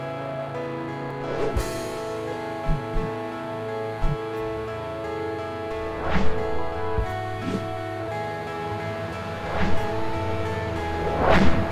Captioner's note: whooshing; uplifting music; whooshing